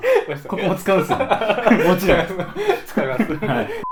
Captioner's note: laughs